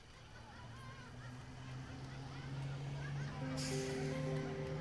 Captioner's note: children laughing